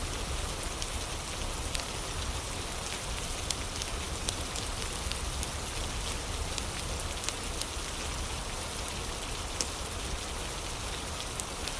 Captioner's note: fire crackling; fire crackling; fire crackling